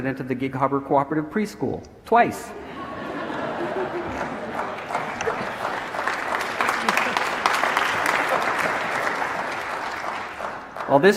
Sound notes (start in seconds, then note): 2.9 audience laughing; 4.9 audience applauding